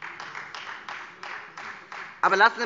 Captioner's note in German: Beifall Freie Demokraten